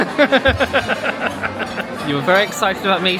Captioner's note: laughing